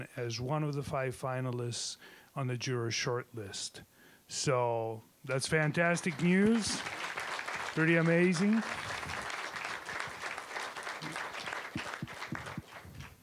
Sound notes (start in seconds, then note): 5.5 applause